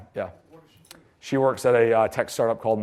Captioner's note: voiceover